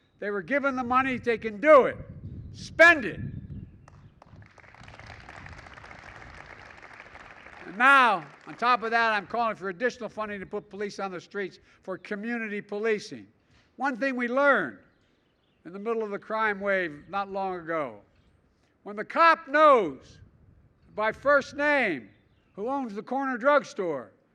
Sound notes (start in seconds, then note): 3.9 applause